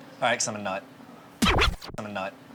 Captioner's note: record skipping